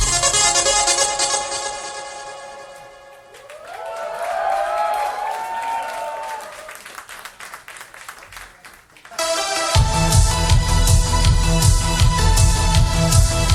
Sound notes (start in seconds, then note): 3.2 audience applauding; 9.2 driving electronic music